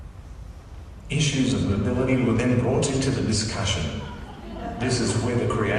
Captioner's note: giggles from the Audience